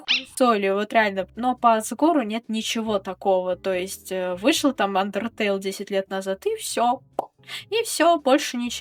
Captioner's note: pop